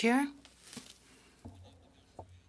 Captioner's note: speaking French